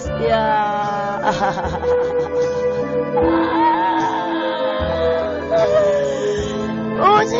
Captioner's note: paradoxical laughter